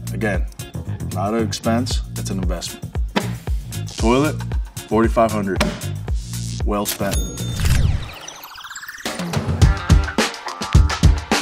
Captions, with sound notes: Again, not an expense, it's an investment. Toilet, $4,500, well spent. [ka-ching] [upbeat music]